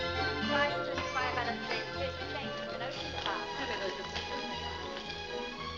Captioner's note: upbeat music; indistinct conversation; upbeat music